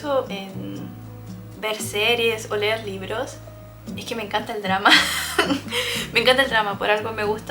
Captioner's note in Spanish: risas